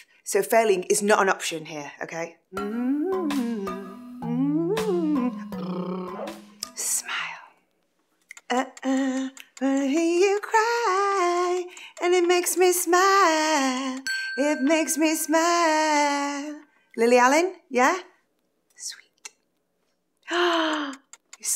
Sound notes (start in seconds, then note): 2.6 hums and trills lips; 6.7 whispers; 18.7 whispers